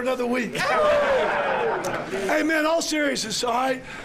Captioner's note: laughter